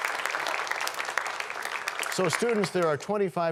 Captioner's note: applause